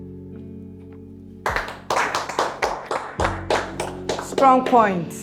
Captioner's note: clapping